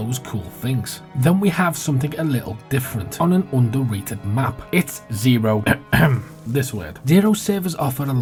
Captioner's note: ahem